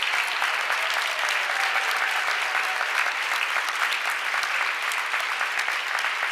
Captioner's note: audience applauds